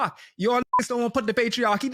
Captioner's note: beep